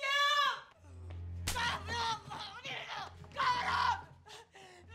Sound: yelling in Spanish

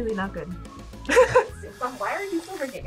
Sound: laughs

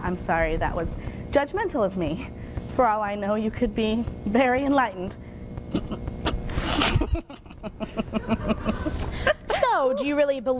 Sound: laughter

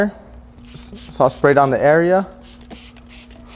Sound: water spraying

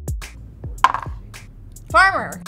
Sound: dice clatters

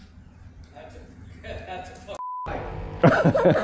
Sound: beep

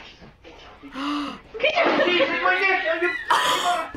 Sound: gasps

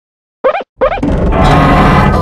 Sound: rub rub

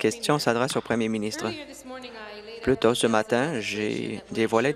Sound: applause

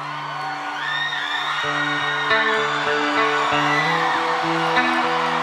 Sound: crowd screaming

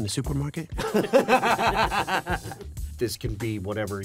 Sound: laughing

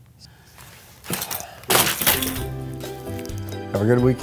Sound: clipboard crashes; upbeat music begins

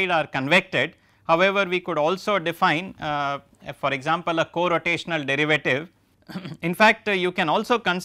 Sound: vocalised noise

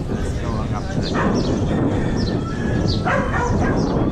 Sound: loud wind rushing

